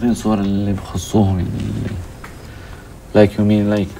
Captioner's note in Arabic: يتحدث بلغة أجنبية